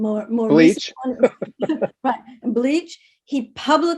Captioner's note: laughs